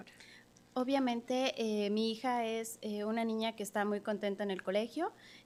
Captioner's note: speaking Spanish